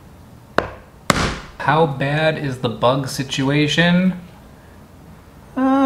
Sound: knife whacking

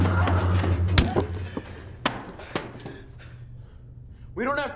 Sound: blow thuds

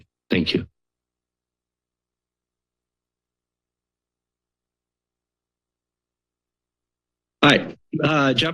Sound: silence

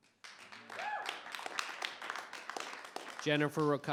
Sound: audience applauding

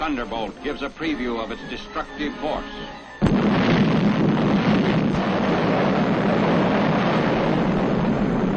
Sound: atomic explosion

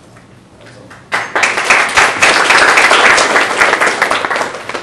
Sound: applause

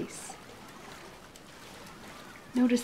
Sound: splashing sounds

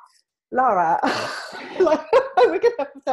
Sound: laughs

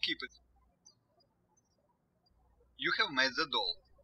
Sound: birds chirping

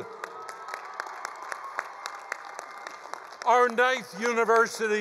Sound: attendees cheering

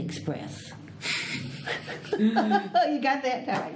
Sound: all laugh

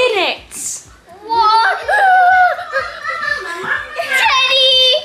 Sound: shouting excitedly

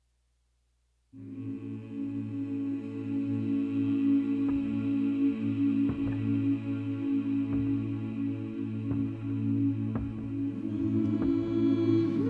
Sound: humming

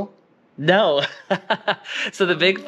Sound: giggles

